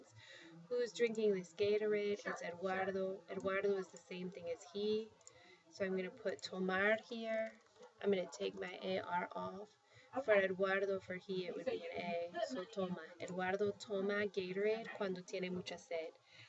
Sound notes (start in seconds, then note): 6.2 spanish; 12.3 spanish; 13.0 speaking spanish